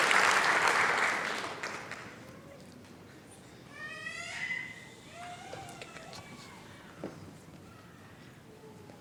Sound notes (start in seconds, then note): 3.7 chatter